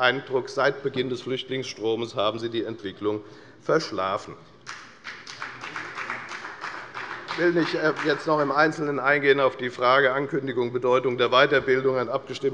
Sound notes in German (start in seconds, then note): 4.6 Beifall bei der FDP